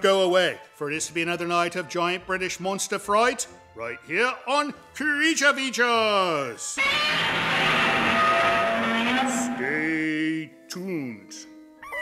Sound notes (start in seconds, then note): 6.7 monster Scream